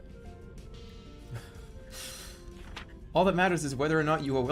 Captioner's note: giggling